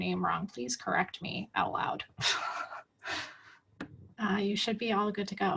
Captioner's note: giggles